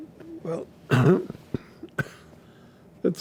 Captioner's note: clears throat, coughing